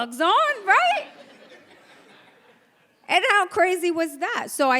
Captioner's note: audience laughs